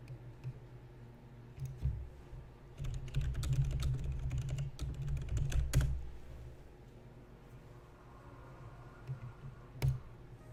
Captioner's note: clicks and taps